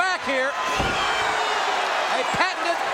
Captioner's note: audience cheering